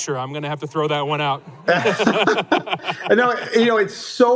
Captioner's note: laughter